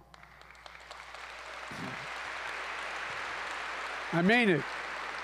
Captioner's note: applause